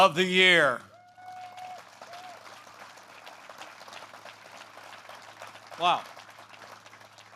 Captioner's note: applause